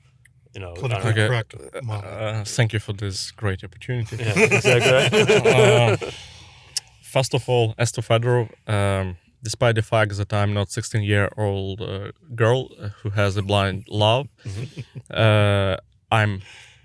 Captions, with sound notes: Politically correct manner. Okay. Thank you for this great opportunity. [laughs] Yeah, is that good? [laughs] First of all, as to Mykhailo Fedorov despite the fact that I'm not a 16-year-old girl who has a blind love—